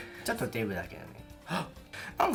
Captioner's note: gasp